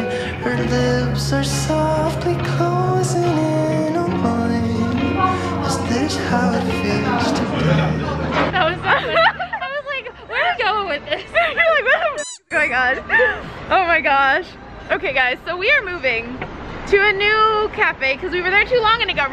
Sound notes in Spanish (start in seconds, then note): 9.8 riendo; 12.1 chillidos